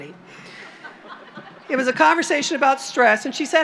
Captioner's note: laughter